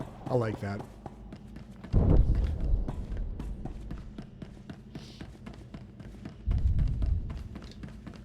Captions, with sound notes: I like that. (gunshots)